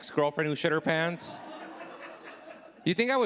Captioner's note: audience laughing